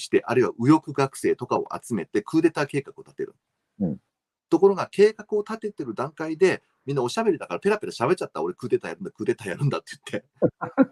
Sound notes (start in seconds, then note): 10.5 laughs